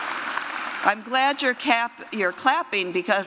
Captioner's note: applause